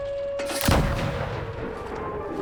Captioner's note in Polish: odgłos wystrzału